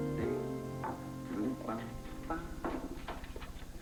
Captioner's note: humming